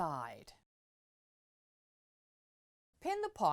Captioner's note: no Sound Present